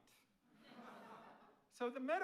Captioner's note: audience laughing